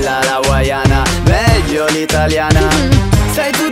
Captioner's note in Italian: mhh